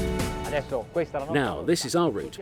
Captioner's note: speaking in foreign language